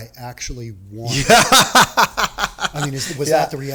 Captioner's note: laughing